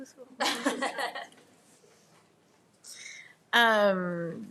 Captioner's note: attendees laughing